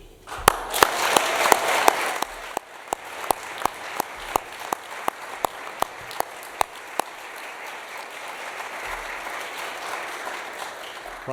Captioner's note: applause